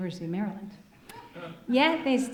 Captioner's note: audience chuckling